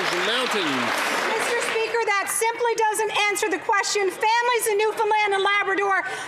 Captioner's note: some Applause